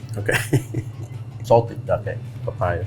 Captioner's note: laughs